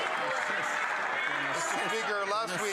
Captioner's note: some Applause